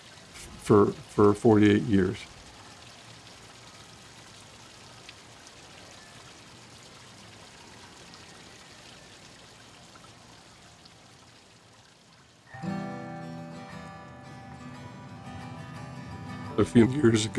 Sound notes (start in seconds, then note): 3.5 fountain splashing; 12.5 upbeat guitar music